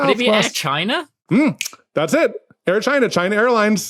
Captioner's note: snaps fingers